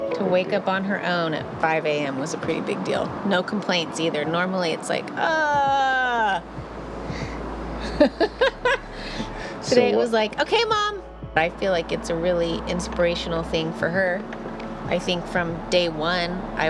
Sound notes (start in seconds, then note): 7.8 laughter